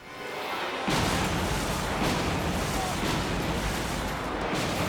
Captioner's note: planes crash